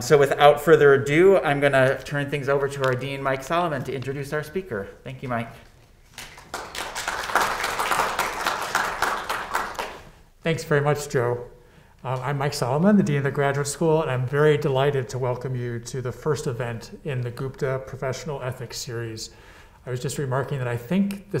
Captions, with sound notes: So, without further ado, I'm gonna turn things over to our Dean, Mike Solomon, to introduce our speaker. Thank you, Mike. (students clapping) - Thanks very much, Joe. I'm Mike Solomon, the Dean of the Graduate School, and I'm very delighted to welcome you to the first event in the Gupta Professional Ethics series. I was just remarking that I think